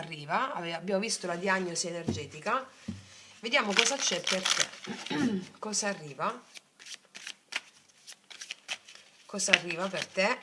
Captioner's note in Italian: schiarire la voce